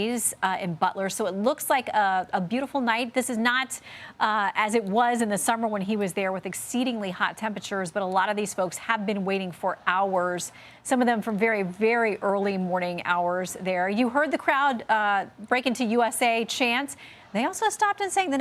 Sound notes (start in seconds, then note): none